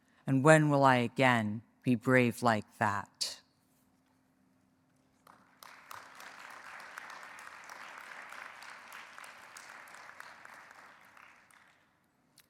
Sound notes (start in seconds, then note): 5.2 audience applauds